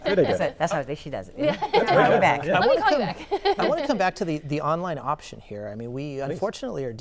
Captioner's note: laughter